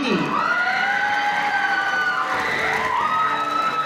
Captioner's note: audience cheering